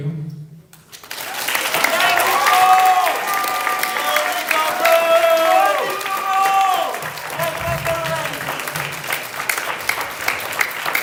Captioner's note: applause